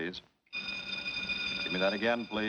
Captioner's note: bell ringing